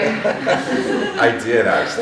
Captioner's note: all laughing